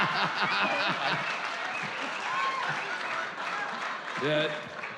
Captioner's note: laughs; applause